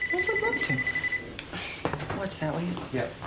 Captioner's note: telephone rings